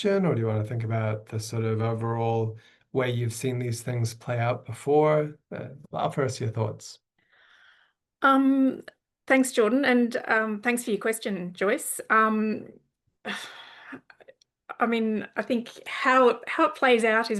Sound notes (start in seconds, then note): 13.2 sighs